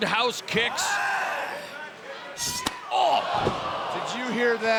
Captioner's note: grunting